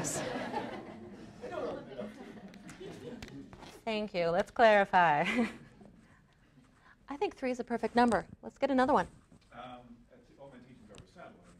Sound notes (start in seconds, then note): 0.0 laughter; 4.9 laughs